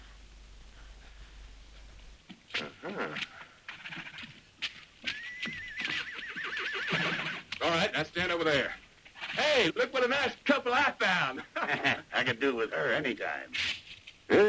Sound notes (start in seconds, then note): 5.0 horse whinnies